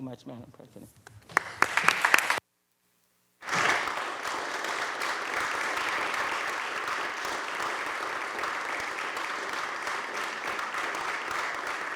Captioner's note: applause